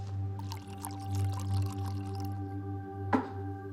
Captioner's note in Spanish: Sonido al verter el tequila